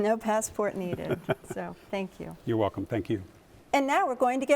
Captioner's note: laughs